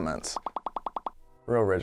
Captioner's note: popping